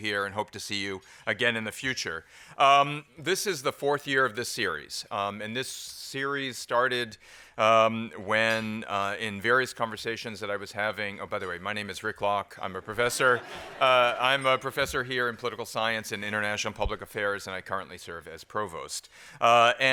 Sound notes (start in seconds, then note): 13.0 laughter